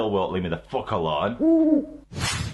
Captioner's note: hoot